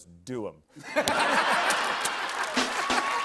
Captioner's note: laughter